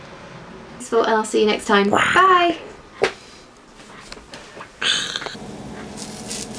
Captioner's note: roars back; roars off screen